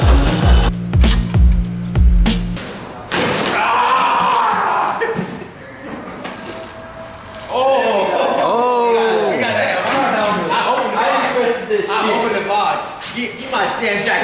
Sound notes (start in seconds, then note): 3.6 yelling